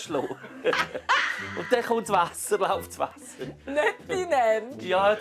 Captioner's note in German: lacht